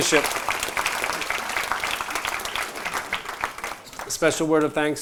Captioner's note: applause